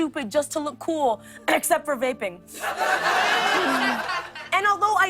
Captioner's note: coughing